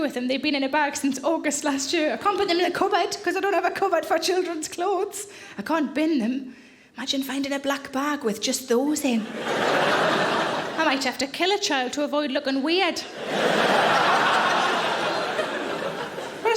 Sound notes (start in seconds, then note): 9.2 audience laughing; 13.0 audience laughing